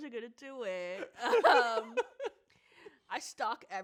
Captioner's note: both laugh